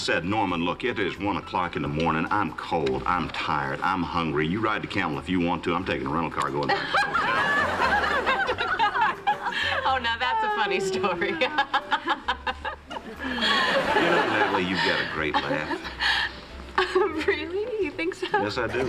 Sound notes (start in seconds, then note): 6.6 laughter; 13.6 laughs; 17.5 giggles